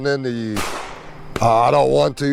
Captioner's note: gun bangs